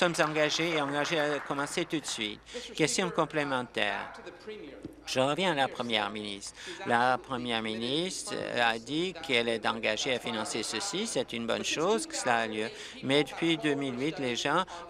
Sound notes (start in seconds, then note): 3.9 applause